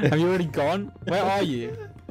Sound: laughing

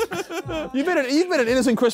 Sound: Sidemen laughing

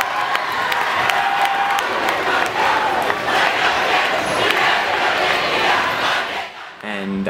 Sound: chanting

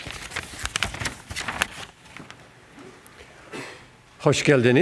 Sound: papers rustling

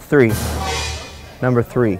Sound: suspenseful crash

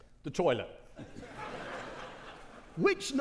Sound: audience laughing

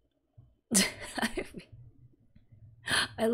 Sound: laughs

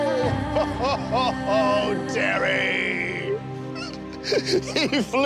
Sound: crying

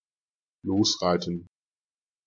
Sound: fast Pronunciation

